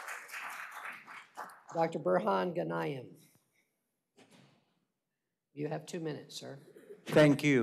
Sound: applause

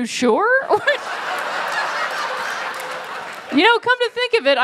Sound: laughter

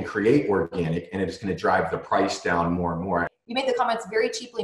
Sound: distorted audio 0:21:10

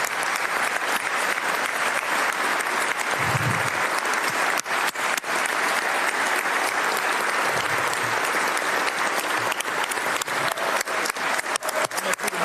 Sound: applause

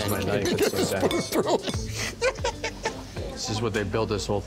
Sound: laughing

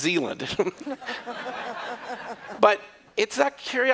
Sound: laughter

